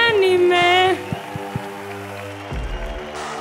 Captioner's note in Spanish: Aplausos